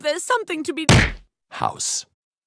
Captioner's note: punch sound